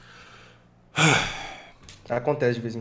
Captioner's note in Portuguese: suspiro